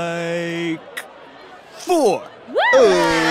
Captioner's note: cheers